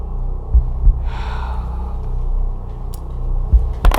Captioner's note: sighs